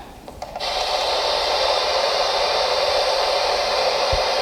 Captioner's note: white noise